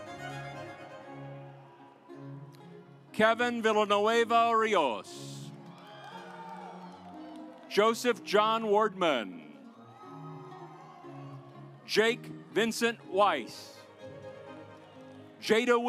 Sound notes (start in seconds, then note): 0.2 stately music; 5.4 audience applauds; 9.7 audience applauds; 14.2 stately music